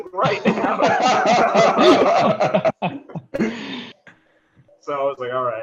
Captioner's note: laughter